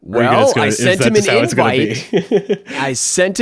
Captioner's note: chuckles